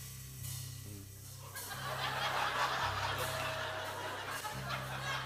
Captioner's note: suspenseful music plays; laughter